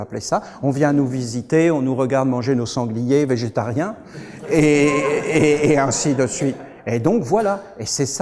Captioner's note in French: rires